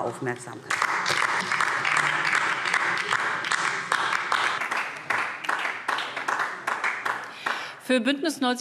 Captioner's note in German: Beifall DIE LINKE